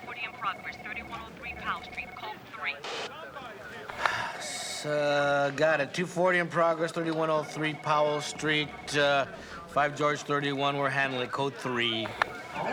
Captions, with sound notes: Five George 31, 2-40 in progress-- 3103 Powell Street. Code Three. (sighs) Uh, got it. 2-40 in progress, 3103 Powell Street. Uh, Five George 31. We're handling a Code Three.